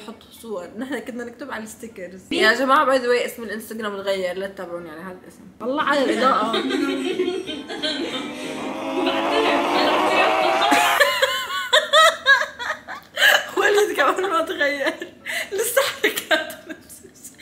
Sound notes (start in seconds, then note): 7.9 COD zombie scream; 11.5 laugh